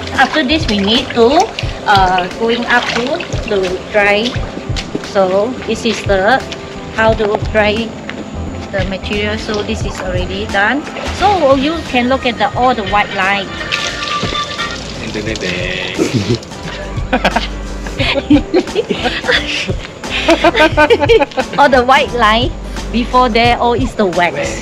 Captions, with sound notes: After this, we need to, uh, hang up to dry. So this is the how we dry the material. This is already done. So you can see all the white lines. *Phone rings* All the white lines was where the wax was.